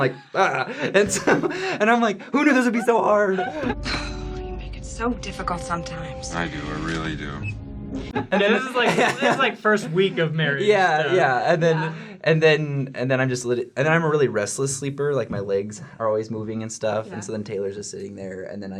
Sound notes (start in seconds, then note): 0.3 groans; 3.4 sighs; 8.1 laughter